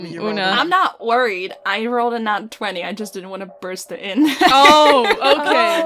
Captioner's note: laughs